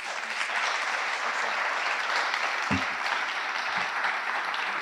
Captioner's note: audience applauding